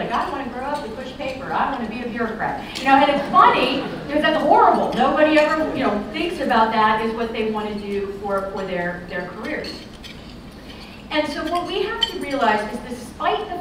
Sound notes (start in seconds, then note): 3.1 laughter